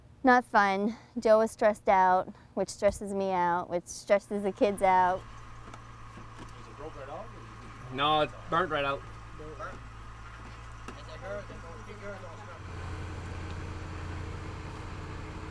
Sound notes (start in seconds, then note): 5.2 tractor engine stalling; 9.8 men chattering